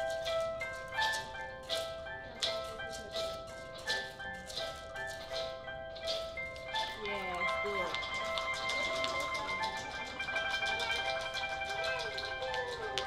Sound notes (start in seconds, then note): 7.5 crisp knocking of pebbles